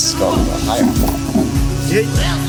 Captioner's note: drawer opens and closes